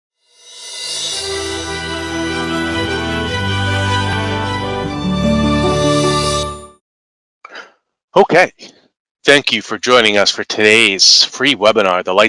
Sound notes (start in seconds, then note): 0.4 logo chiming